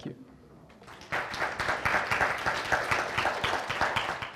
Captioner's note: applause